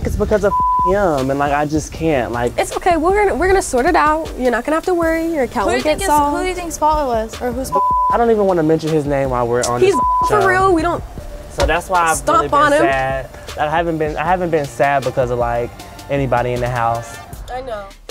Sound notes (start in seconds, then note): 0.5 beep; 9.7 beep; 11.0 stomps